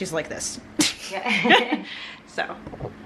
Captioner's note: laughing